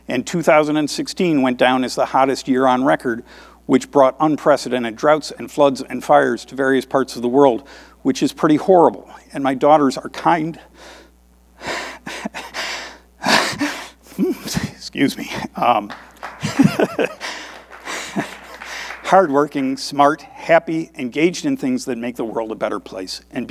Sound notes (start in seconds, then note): 11.5 choking up; 15.8 audience applauding